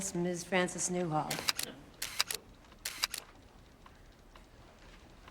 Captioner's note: camera clicking